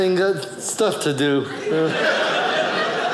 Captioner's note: audience laughing